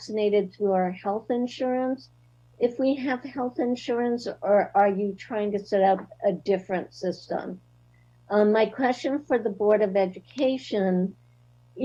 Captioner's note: spanish